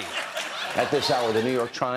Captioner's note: laughter